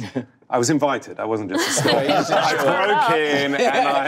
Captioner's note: group laughing